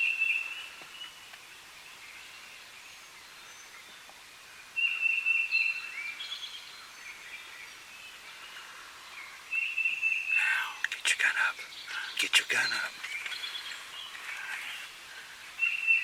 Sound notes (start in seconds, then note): none